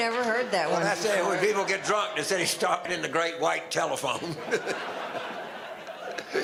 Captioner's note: audience laughter